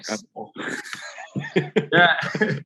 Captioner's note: Alex laughs